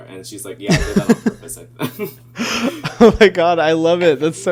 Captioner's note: laughing